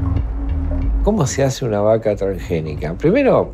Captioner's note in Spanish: Voz de hombre